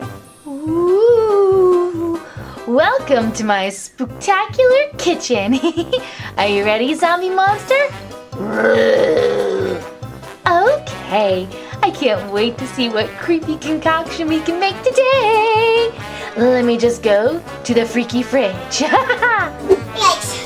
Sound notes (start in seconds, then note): 5.3 laughs; 8.3 monster roars; 18.6 laughs